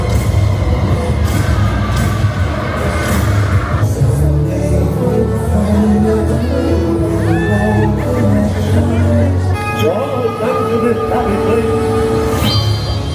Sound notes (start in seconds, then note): 0.0 thunder rumbling